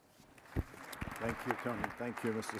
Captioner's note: applause